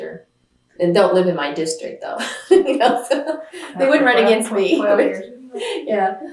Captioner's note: laughs